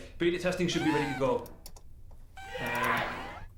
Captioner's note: computer chiming; person shouting